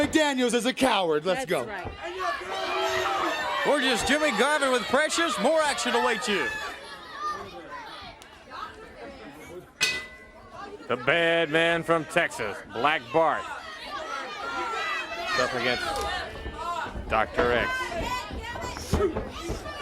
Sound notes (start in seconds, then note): 3.6 crowd chatter; 9.8 bell ringing; 16.1 crowd chatter; 19.6 crowd chatter